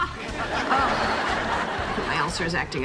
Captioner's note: audience laughing